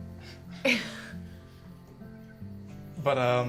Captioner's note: chuckling